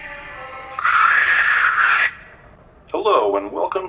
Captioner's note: static interference